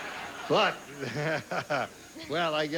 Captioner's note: laughs